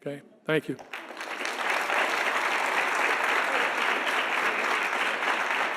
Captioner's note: audience applauding